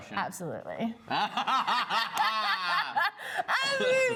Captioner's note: both laugh